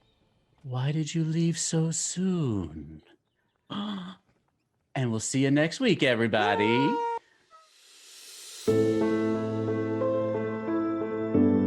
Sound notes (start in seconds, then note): 3.3 gasping; 7.8 soft music